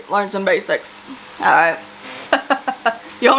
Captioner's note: laughs